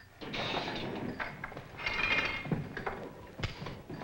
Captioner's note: door Slams Shut